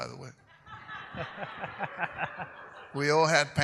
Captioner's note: audience laughs